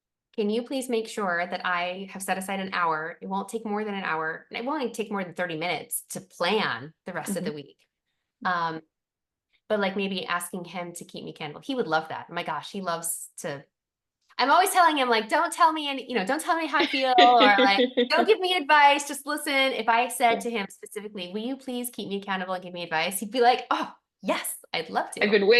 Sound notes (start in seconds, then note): 16.8 laughter